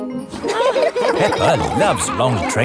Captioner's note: laughing